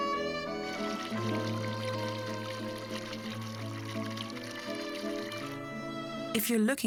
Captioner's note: elegant classical music; water pouring